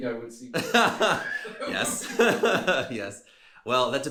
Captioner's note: both laughing